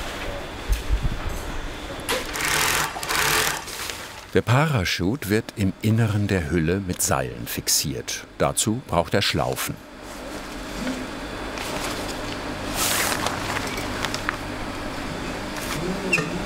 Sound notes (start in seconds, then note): 2.0 buzzing, rattling